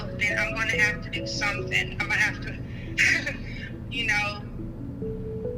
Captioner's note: laughs